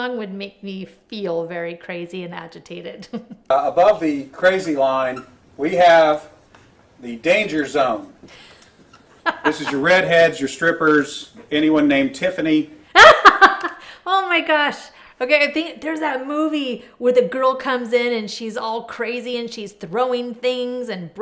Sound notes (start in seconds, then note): 3.0 laughs; 9.2 host laughs; 13.0 laughs